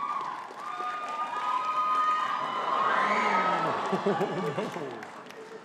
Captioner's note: audience cheering and clapping